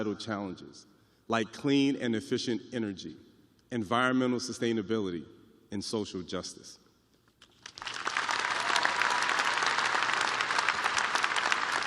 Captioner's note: applause